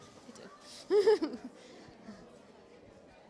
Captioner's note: laughs